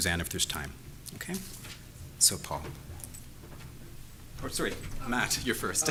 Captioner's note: laughs